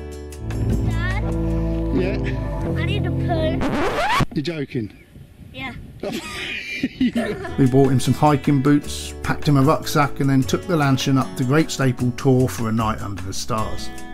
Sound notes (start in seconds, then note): 3.5 record Scratch!; 6.0 laughs